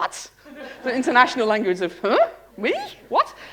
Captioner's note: laughter